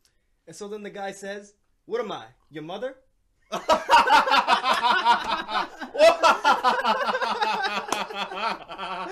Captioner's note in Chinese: 一陣狂笑....難笑